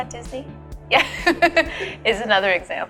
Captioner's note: laughs